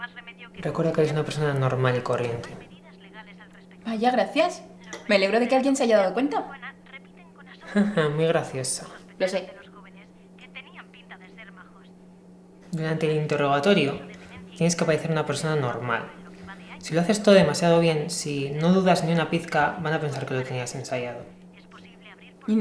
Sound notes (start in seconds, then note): 7.6 laugh